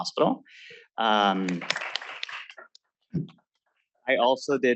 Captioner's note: applause